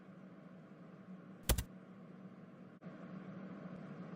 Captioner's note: keyboard click